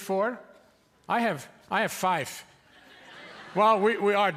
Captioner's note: audience laughing